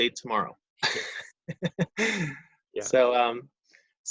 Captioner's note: laughs